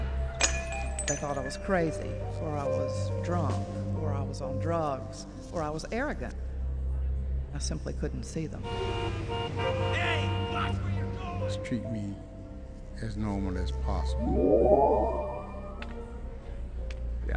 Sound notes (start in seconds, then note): 0.4 glass breaks; 8.7 car horns